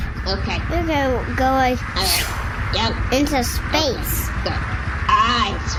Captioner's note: swishes